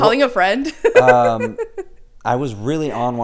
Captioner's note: laughs